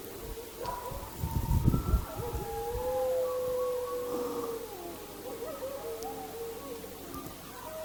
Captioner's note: howls